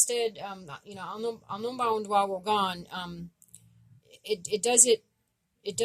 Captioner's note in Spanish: Idioma Abenaki